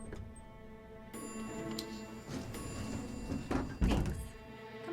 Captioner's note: elevator chime